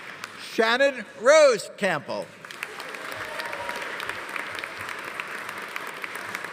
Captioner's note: audience applauding